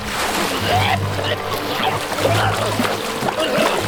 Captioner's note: sheriff gurgling